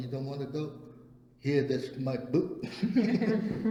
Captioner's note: all laugh